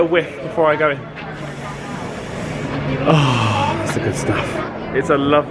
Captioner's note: sniffing